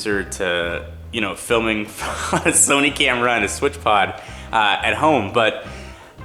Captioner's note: laughs